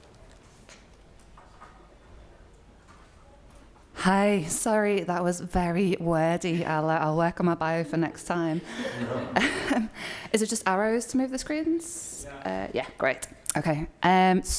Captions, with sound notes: Hi. Sorry that was very wordy. I'll work on my bio for next time. (all chuckling) Is it just arrows to move the screens? - Yeah. - Yeah. Great, okay.